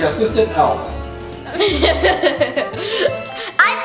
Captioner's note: giggles